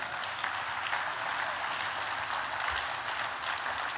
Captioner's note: applause